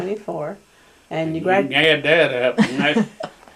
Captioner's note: laughter